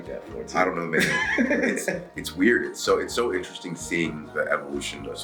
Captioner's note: laugh